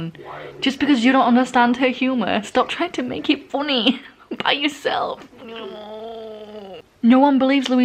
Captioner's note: pained noises